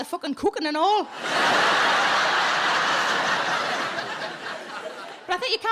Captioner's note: audience laughing